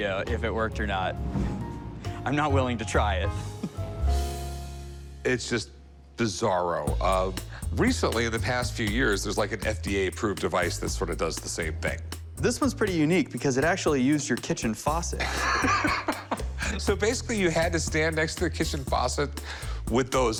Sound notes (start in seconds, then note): 15.2 laughs